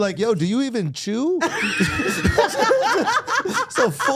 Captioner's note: Steph laughing